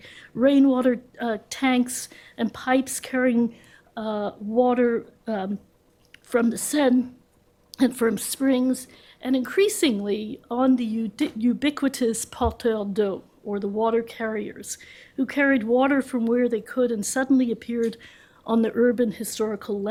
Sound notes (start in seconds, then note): 12.2 french